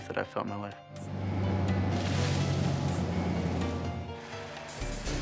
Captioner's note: plane humming; solemn music